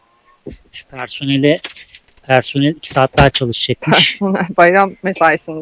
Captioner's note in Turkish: kahkaha